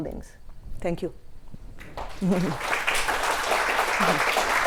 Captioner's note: audience Clapping